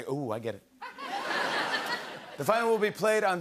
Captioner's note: laughter